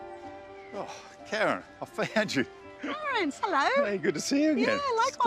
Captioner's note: chuckles